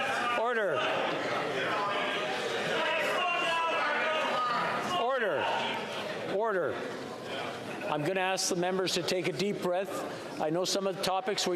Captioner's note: yelling